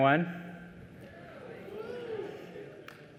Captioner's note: cheers